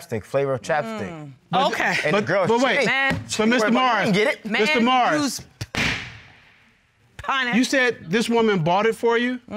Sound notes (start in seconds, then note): 5.4 bangs gavel